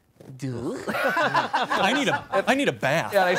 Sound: laughing

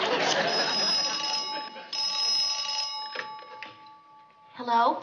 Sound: phone rings

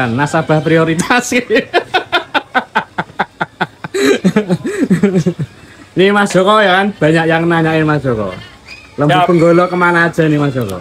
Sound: laughs

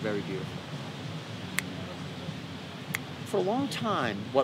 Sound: snaps

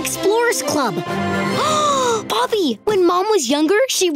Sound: gasping

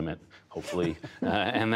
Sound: laughter

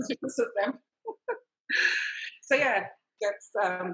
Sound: laughing

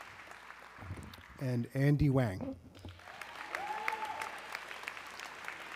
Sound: audience clapping

